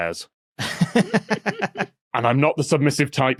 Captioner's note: snickers; cackles softly